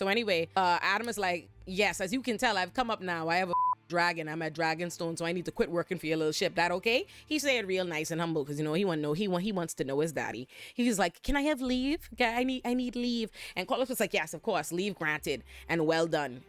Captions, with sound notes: So anyway, Adam is like, yes, as you can tell, I've come up now, I have a (beep) dragon. I'm a dragonstone, so I need to quit working for your little ship. That okay? He's saying real nice and humble, because you know, he wants to know his daddy. He's like, can I have leave? I need leave. And Carlos was like, yes, of course, leave granted and well done.